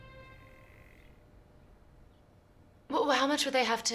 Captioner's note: whirring